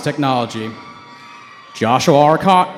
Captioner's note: cheering